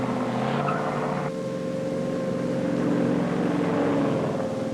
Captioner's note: air raid siren blaring